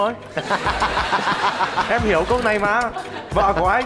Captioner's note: laughing